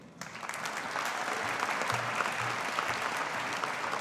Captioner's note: audience applauding